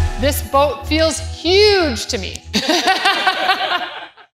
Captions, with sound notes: This boat feels huge to me. [LAUGH]